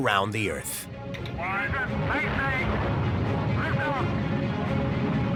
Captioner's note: male voice over radio